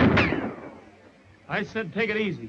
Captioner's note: gun firing